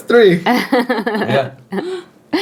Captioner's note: laughing